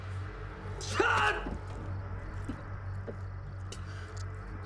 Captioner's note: Louis shouts